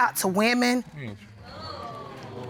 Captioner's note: audience exclaims